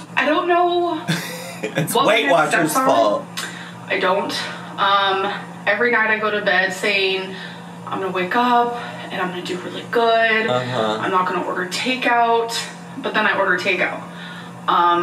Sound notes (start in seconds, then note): 1.0 laughs